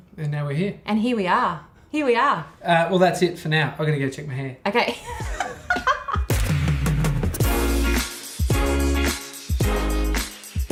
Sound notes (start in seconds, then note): 5.0 laughing